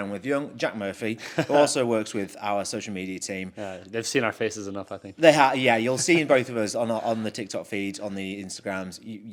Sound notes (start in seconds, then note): 1.2 laughs; 6.4 laughs